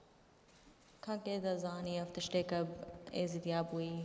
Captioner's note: speaking kurdish